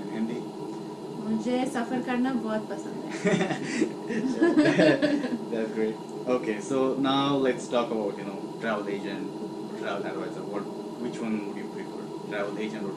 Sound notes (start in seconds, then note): 8.0 laughter